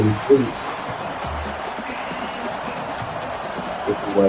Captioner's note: crowd Noises